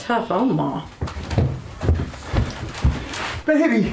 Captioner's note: footsteps rushing in